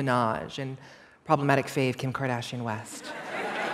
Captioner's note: laughter